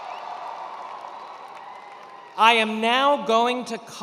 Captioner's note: attendees cheering